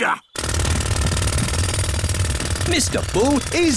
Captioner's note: drilling